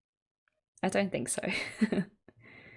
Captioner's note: laughs